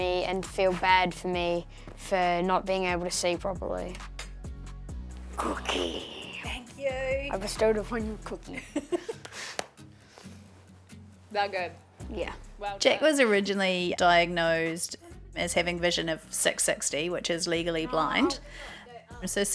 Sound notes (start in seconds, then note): 8.6 chuckles